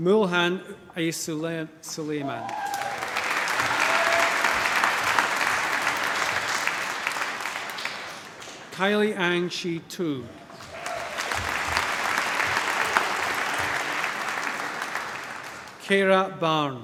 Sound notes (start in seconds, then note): 2.4 applause; 12.2 cheering, applause